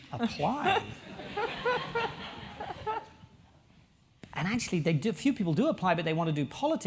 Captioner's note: laugh